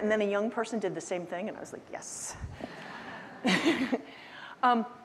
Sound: chuckles

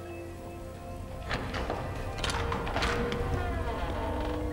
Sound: door opening

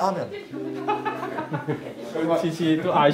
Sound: laughs

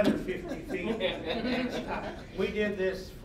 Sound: all laughing

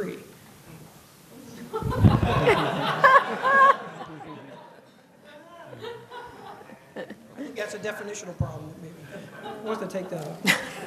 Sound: laughter

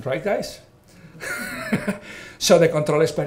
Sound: all laughing

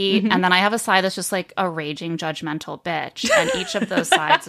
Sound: laughing

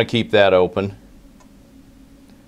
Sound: pause

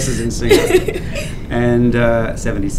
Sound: laughs

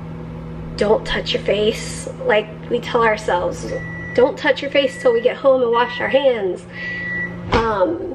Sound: microwave beeping

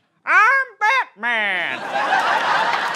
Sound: high-pitched voice

